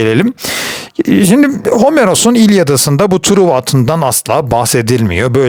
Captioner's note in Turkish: homurdanır